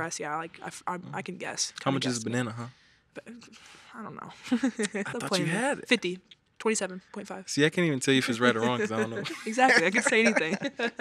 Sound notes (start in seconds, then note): 4.5 laughs; 8.4 laughs; 10.8 all laughing